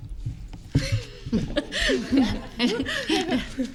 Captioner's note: laughs